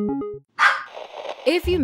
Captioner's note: start sound, dog barks; static